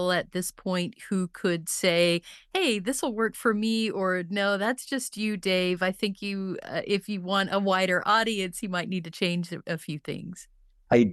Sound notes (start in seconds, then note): none